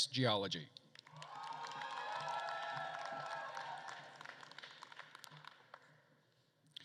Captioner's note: attendees cheering and applauding